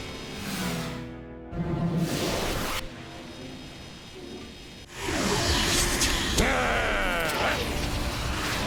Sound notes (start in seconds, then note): 1.6 suction noises; 6.4 growls